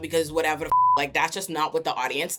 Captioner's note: beep